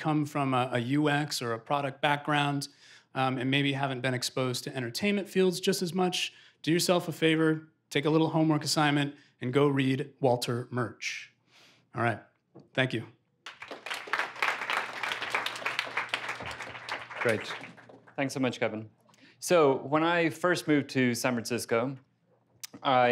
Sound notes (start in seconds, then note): 13.4 applause